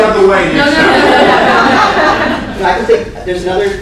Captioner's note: laughter